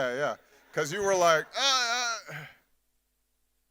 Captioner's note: groans